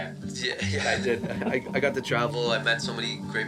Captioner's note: chuckles